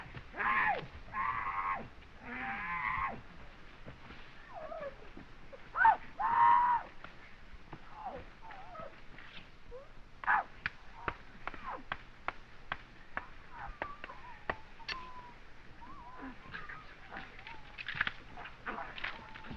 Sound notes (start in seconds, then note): 0.2 yelling; 16.5 whispering